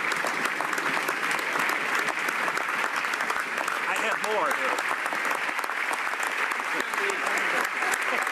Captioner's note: applause